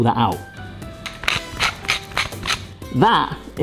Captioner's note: pepper grinder crackling